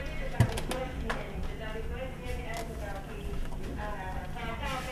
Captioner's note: Tongan radio playing